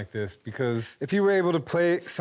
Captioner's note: none